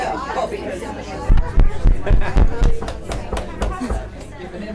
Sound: thumps microphone

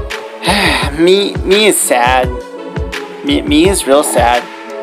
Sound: sighs

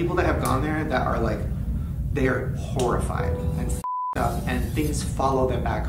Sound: beeps

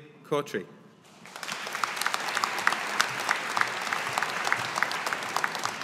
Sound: audience applauding

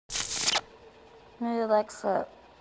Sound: TV static plays

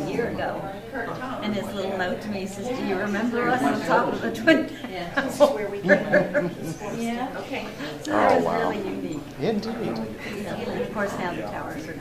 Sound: both laugh

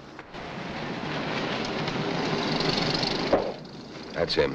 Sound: cars rumbling

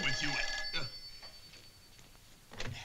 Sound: phone ringing

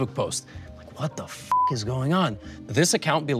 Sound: beep

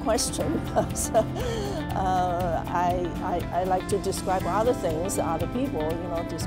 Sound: laugh

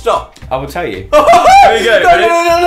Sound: screaming

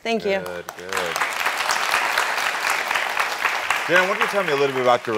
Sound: audience clapping

